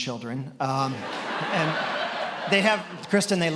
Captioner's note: attendees laughing